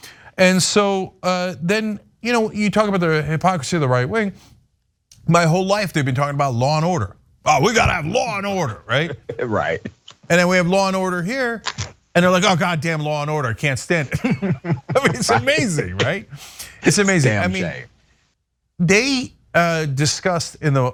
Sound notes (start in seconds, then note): 14.0 laugh